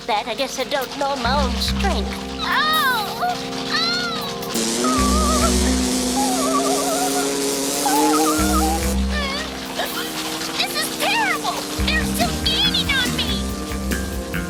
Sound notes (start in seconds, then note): 2.6 crying out; 4.7 whimpering